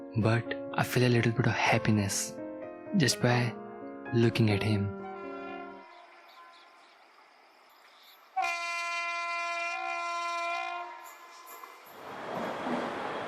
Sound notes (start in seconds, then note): 8.3 train Honking; 12.8 train Passing